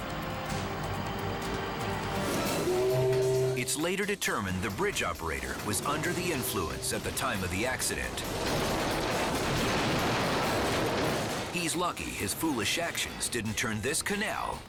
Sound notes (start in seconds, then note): 2.2 barge horn blowing; 8.6 barge crashing; 8.6 bridge shattering